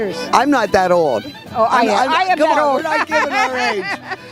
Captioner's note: laughing